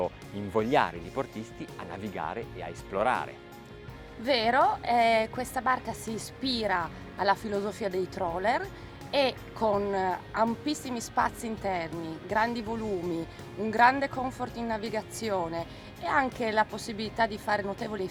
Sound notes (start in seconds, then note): 2.9 speaking in foreign language